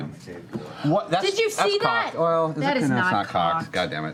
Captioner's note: yelling